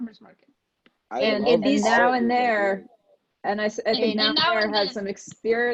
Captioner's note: group talking indistinctly